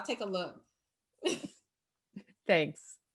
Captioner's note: chuckles